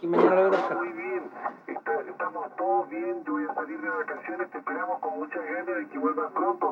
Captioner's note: radio communication